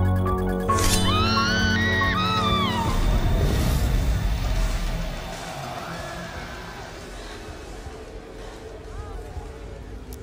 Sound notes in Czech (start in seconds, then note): 0.8 křičí; 6.9 fouká vítr